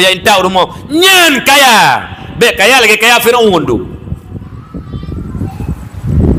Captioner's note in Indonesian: berteriak